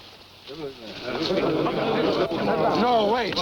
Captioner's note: warriors clamoring